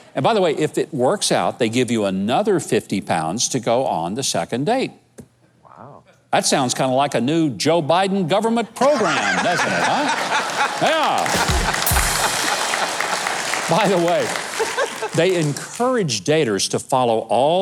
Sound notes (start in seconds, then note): 10.6 laughing; 11.2 cymbals crashing; 11.7 audience clapping